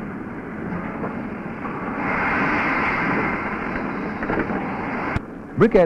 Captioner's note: sound of machinery